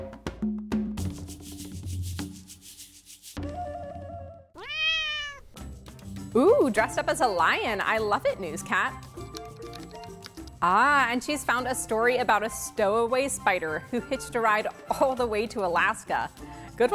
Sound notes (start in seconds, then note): 0.0 jungle music; 4.5 cat meowing